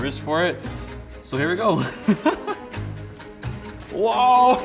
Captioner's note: laughs